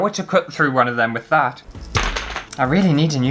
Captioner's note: chop!